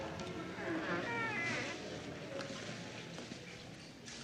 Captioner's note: door creaking